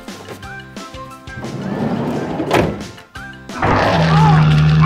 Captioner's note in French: cheerful whistling music; door rumbles and slams; monster roaring